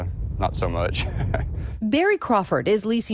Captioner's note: laughter